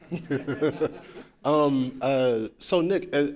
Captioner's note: laughing